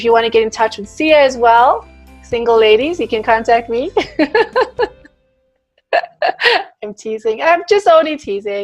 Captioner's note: laughs